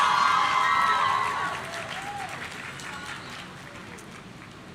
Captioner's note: audience cheering